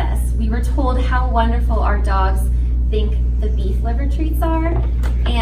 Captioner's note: none